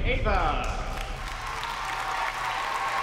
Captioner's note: cheering